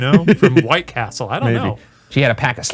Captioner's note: laughing